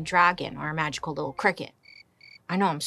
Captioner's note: crickets chirping